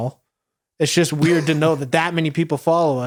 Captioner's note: orange shirted man chuckles